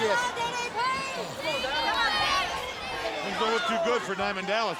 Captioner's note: crowd cheering